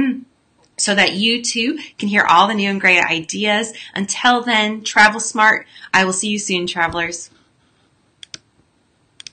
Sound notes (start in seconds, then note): 8.2 clicking